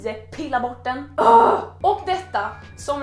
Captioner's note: frustrated growl